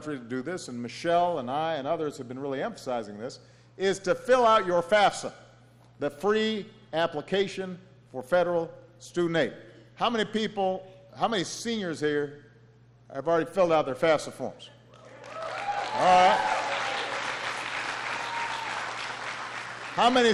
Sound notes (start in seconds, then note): 15.0 applause